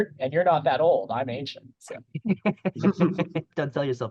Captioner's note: laughter